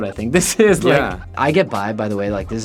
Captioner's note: laughing